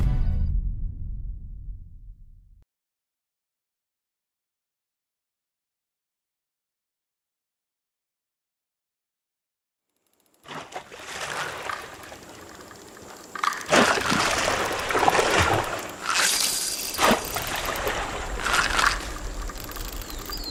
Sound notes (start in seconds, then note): 0.1 music fades; 10.4 splashing